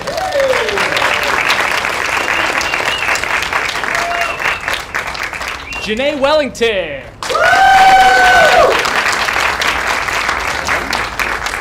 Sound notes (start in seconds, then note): 0.0 applause; 7.2 cheering